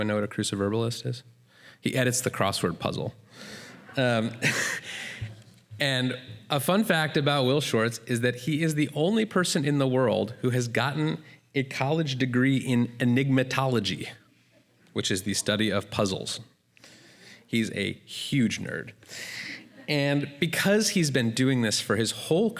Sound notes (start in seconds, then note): 3.7 laughter